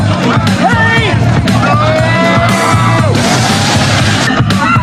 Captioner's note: crowd screaming